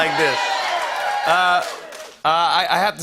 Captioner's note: cheers and applause